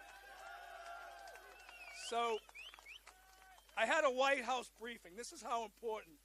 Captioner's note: applause